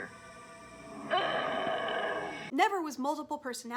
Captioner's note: angry grunting